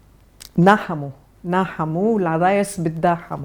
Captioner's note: Arabic